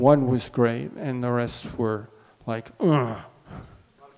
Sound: grunts

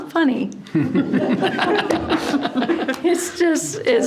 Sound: board members laugh

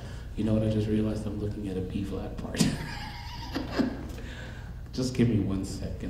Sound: laughing

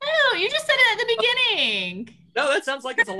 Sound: laughing

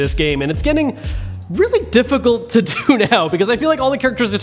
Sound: laughs

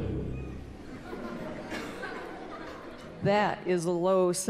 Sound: laughter

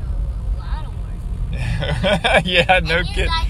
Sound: dad laughing

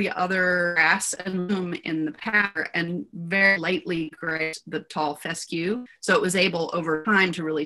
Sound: distorted audio

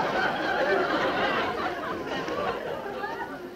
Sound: laughter

